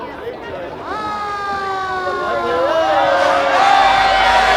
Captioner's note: fire engine siren blares